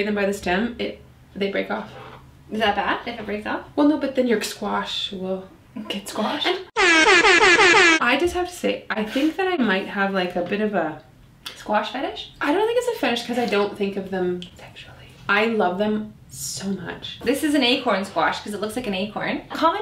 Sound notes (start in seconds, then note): 6.7 electronic horn sound